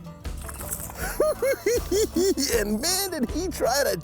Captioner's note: cackling